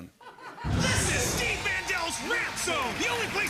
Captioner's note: laughter; cheering and applause